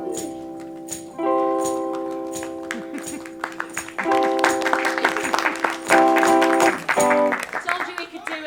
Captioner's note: music gets quieter; applause